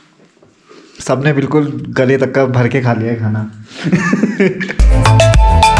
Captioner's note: laughs